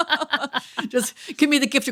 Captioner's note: both laughing